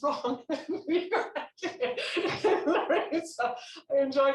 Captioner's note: laughing